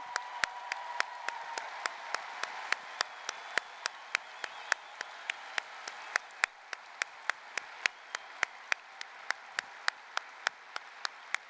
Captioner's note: applause, cheering